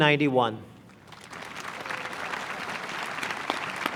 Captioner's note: applause